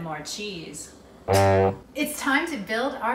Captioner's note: horn blow